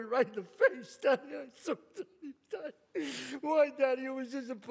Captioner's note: cries